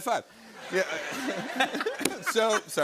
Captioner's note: laughter